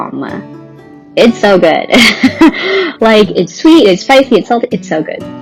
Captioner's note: laughs